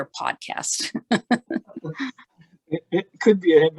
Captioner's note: laughter